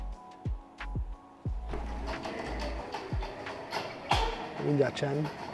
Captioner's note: gate goes up